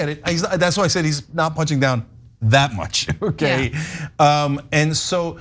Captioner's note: laugh